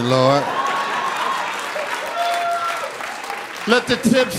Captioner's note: audience laughing